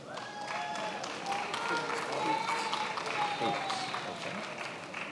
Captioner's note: attendees applauding